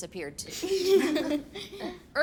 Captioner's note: kids giggling